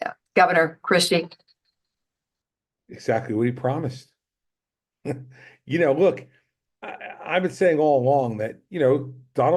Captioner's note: laughs